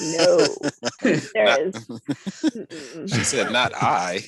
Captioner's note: laughs